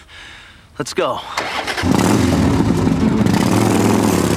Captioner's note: motorcycle revs